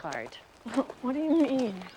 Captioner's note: chuckles